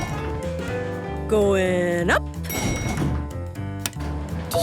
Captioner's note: elevator pings